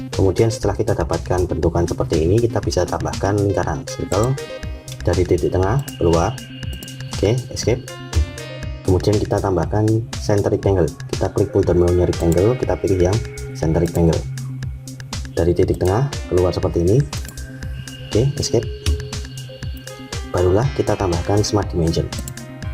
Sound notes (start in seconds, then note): 4.9 click; 6.7 click; 17.1 click; 22.1 click